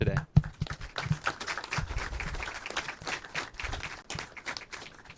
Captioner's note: audience applauds